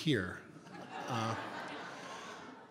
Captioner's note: audience Laughter